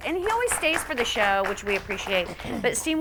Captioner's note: audience clapping